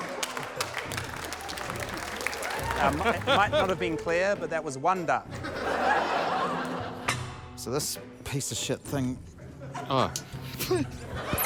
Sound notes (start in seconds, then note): 3.3 laughter; 9.5 giggles; 9.5 laughter